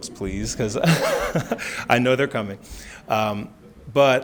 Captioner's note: laughs